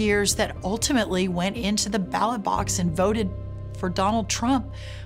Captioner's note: none